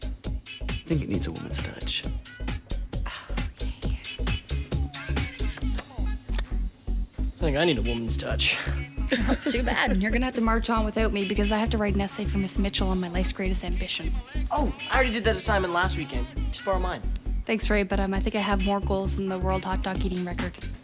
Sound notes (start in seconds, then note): 5.5 clicks